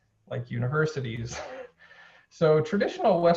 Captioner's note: chuckles